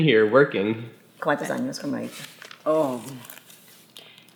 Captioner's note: speaking Spanish